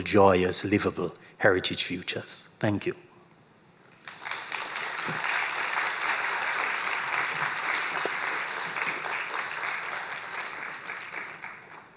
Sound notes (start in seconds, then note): 4.0 applause